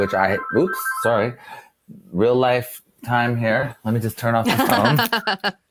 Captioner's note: phone ringing